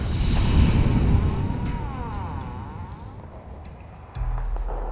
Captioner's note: door squeaking; light rhythmic music continues